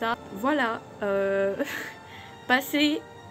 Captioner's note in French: rire